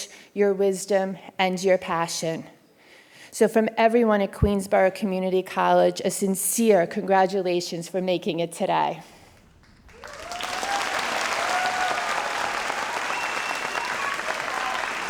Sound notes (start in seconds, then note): 9.4 audience applauds